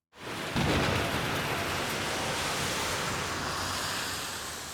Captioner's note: thunder cracks